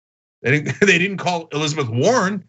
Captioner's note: laugh